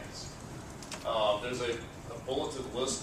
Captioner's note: none